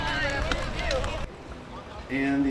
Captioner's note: people crossing street sounds